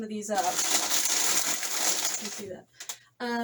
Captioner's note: paper loudly rustling